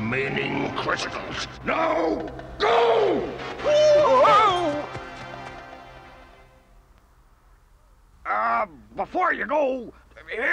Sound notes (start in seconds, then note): 1.9 clamoring